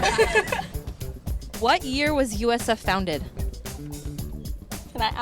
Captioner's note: laughter